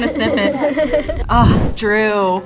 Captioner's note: both laugh